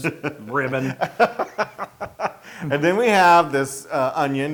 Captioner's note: laugh